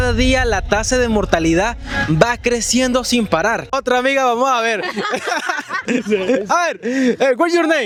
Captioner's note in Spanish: risas